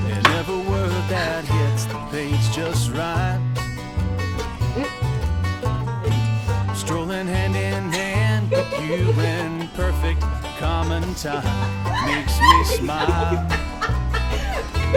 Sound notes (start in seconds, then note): 7.8 laughing